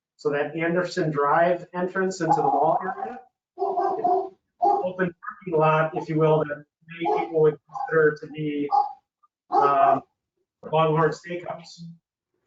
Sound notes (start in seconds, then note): 7.0 dog barks